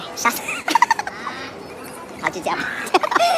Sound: hahahaha laughing until squawking

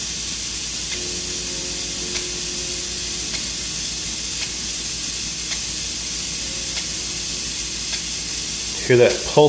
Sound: sound of pulsating air flowing from the airbrush

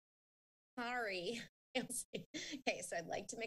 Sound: chuckling

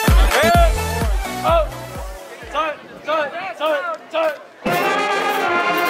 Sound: band hisses

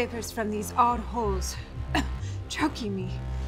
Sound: coughs

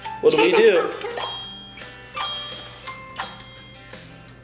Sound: ding

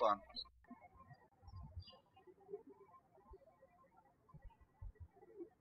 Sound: birds chirping

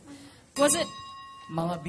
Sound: bell

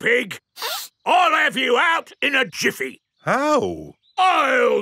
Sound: sniffs

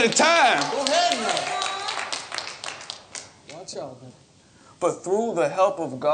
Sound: congregation murmuring

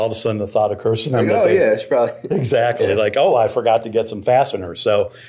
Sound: chuckling

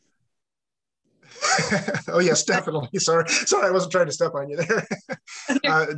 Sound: laughs

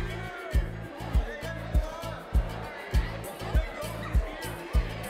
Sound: students cheering; cheery music

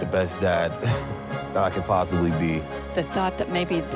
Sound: scoffs

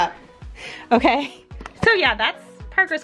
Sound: chuckles

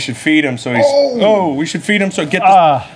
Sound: gasps

